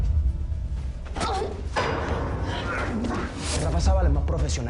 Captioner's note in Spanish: Quejidos